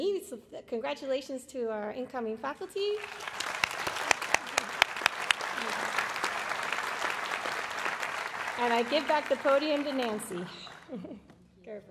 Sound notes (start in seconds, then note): 2.9 applause